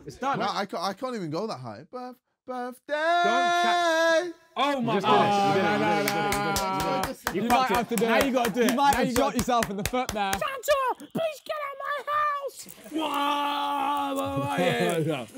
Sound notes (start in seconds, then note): 5.9 applauding; 13.7 imitating music